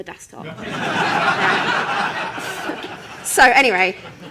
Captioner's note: laughter